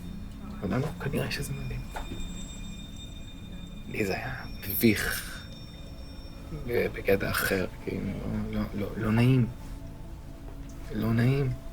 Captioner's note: Hebrew